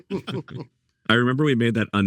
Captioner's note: panelists chuckling